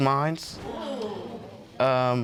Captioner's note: audience gasps